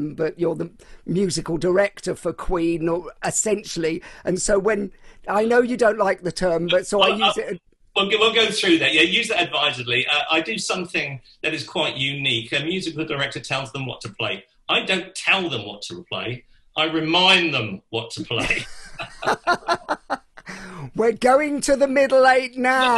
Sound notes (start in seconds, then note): 18.3 both laughing